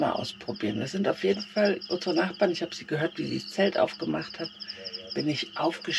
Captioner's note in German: räuspern